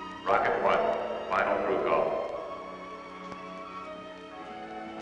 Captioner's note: loudspeaker